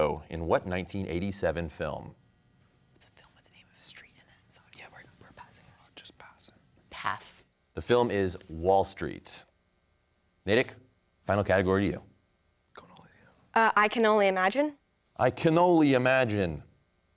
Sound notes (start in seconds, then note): 2.6 whispering; 4.9 team whispering; 6.3 whispering